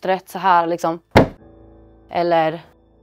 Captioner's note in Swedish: dunk